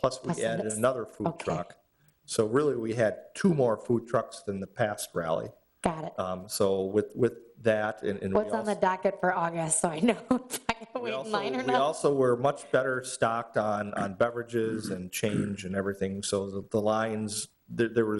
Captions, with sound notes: plus we added another food truck. So really we had two more food trucks than the past rally. Got it. So with that. What's on the docket for August So I know whether to wait in line or not? (laughs) We also were much better stocked on beverages and change and everything. So the lines, there was,